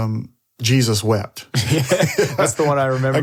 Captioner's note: all laugh